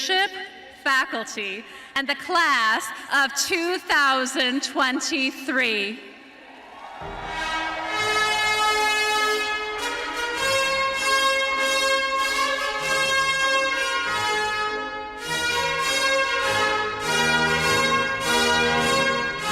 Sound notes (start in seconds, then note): 7.9 cheering and applause